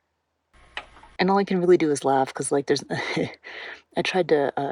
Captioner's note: laughs